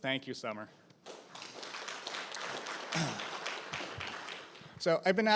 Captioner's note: audience applauding